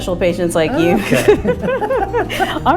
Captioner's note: both laughs